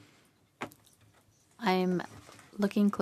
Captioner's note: speaking French